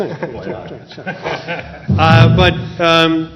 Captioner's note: laughter